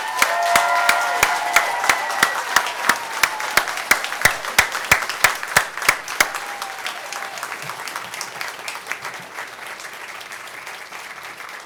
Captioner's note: applause